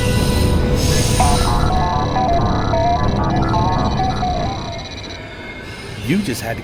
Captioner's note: interface chiming and buzzing